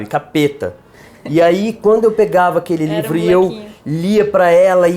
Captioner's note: laugh